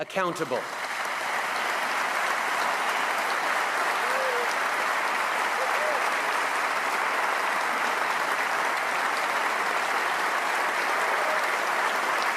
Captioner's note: applause